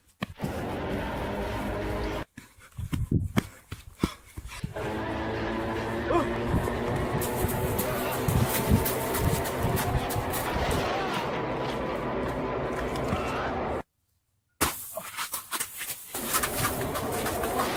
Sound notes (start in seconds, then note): 0.2 monster running; 4.6 monster running; 4.8 monster growling; 15.1 monster running; 16.2 monster growling